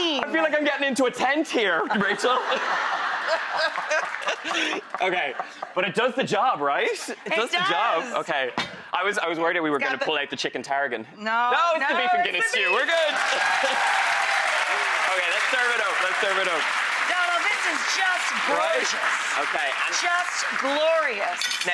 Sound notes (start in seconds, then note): 1.8 laughing; 13.6 audience cheering; 17.1 audience clapping